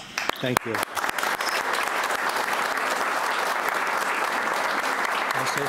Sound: audience applauds

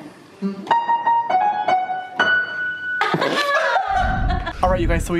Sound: laughing; upbeat music

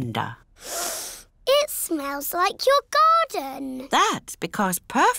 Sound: sniffs

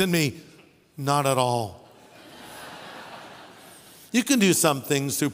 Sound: audience laughing

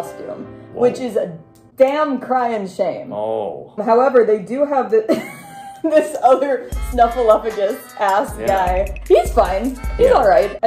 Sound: sad piano; laughing; shitty music

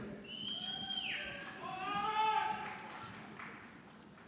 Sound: scattered cheering

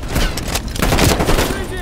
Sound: gunshots

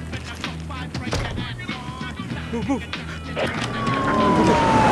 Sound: door shutting; sirens blaring

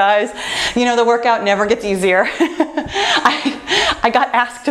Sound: laughs

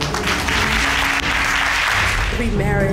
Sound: audience applauding

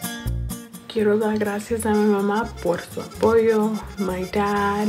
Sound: speaks in foreign language

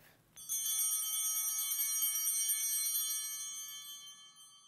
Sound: bell ringing

